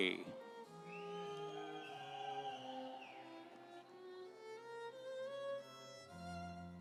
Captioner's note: audience cheering; instrumental music